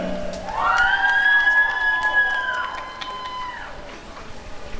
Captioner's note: applause and cheering